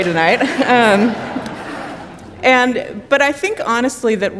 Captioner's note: audience applauding